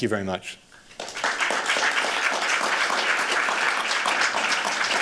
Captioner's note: applause